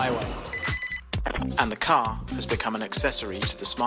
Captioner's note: phone ringing